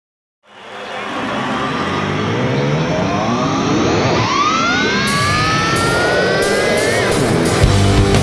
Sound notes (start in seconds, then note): 0.4 crowd cheering; 5.0 fast paced rock music